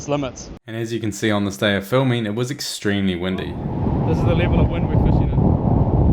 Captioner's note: drone props spinning in the wind